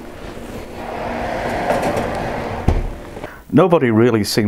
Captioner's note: yet more oven roar